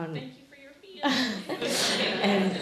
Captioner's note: woman's Voice; laughing